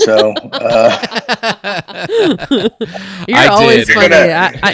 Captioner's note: group laughs